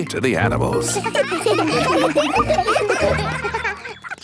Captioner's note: children laughing